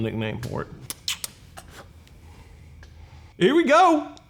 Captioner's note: smacking lips